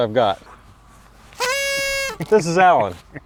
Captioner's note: party favor tooting